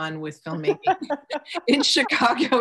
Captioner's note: laughs